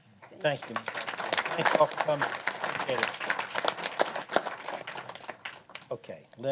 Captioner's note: applause